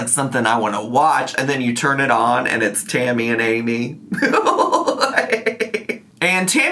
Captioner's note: laughs